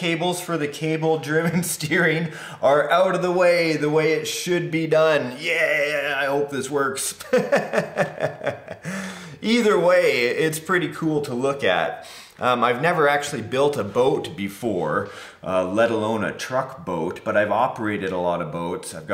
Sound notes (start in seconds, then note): 7.2 laughs